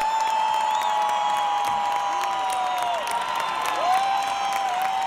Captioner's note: audience cheering